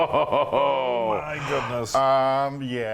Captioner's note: laugh